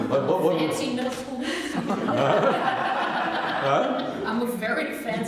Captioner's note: laughter